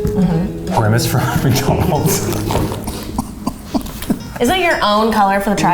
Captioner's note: laughing